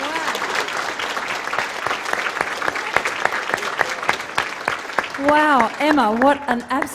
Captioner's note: applause